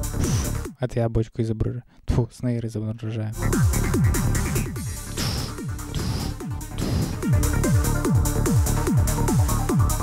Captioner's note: i voiced snare